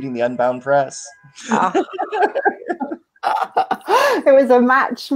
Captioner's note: laughing